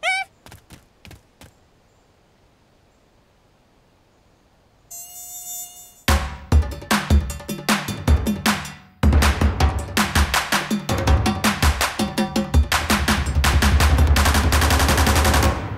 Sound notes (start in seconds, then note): 4.9 mosquito buzzing; 6.6 upbeat drum music